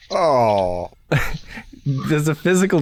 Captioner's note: chuckles